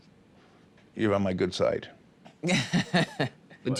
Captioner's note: laughs